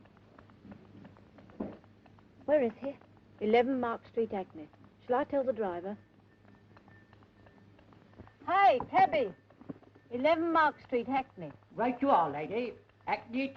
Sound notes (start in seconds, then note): none